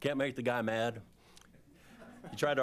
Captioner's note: laughter